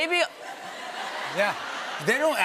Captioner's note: laughter